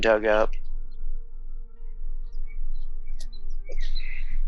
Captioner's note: birds chirping